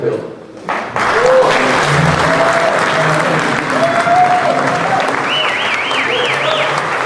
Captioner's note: crowd applauding; crowd cheering